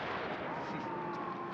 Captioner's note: laugh